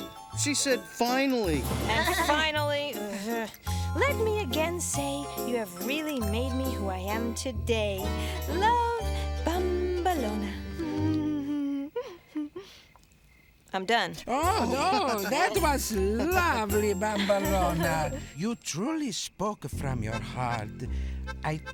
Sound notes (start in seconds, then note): 1.8 goat bleating; 11.2 giggling